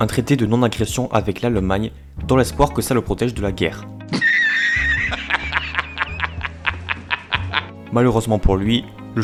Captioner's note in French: rires